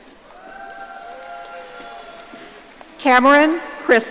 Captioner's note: audience cheering